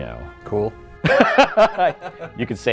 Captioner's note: laughing